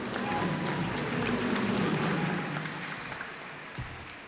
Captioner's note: cheers and applause